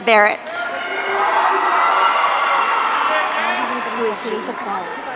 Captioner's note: audience cheering